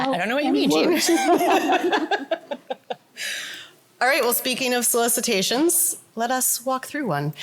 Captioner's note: laughter